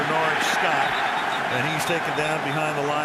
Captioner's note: whistle blowing